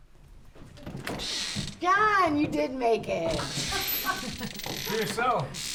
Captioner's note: door knocking; door opening